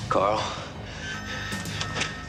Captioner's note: breathing heavily